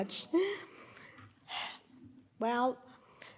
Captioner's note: sighs